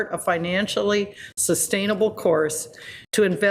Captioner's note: none